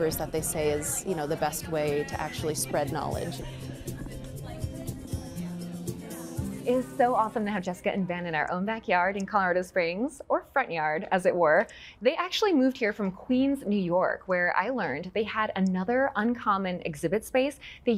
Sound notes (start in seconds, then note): 4.0 crowd talking